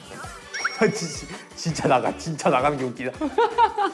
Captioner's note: laughing together for smooth communication